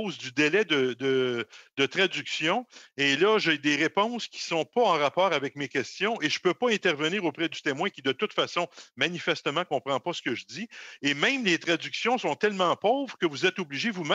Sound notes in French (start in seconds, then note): 4.3 voix de l'interprète